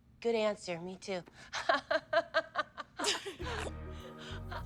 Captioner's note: laughs